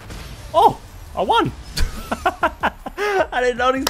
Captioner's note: laughs